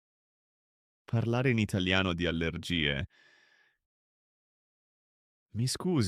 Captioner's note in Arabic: التحدث بالإيطالية عن الحساسية